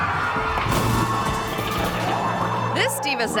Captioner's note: audience gasping; performer crashes on floor